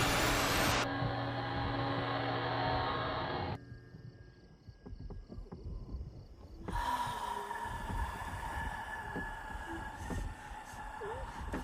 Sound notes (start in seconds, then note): 7.1 Abigail wheezing